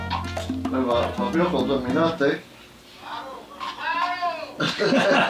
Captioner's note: speaking spanish; laughter